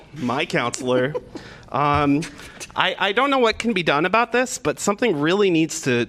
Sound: laughter

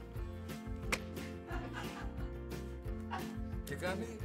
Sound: laughs

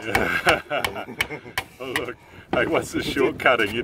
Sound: laughs

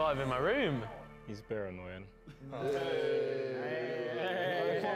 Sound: jeering

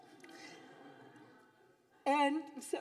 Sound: audience laughing

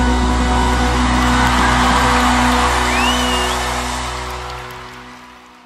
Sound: applause

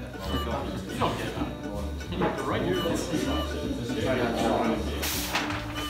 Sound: chatter

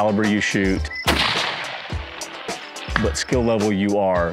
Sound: rifle firing

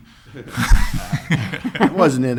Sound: laughs

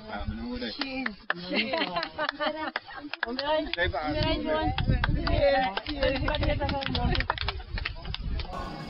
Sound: applause

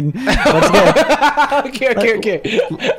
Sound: laughs

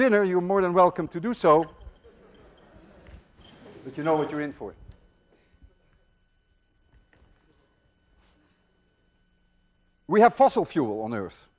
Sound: students laugh

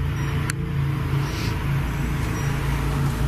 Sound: beeping

